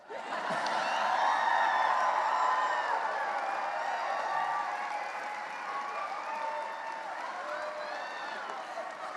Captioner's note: cheering and applause